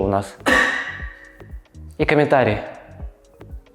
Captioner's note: coughs again